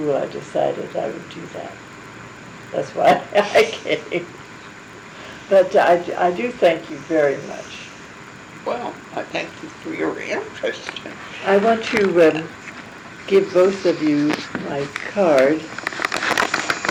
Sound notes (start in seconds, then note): 2.9 laugh